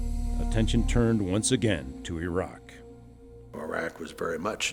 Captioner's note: voiceover